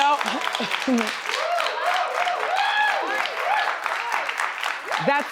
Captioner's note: audience cheers; laughs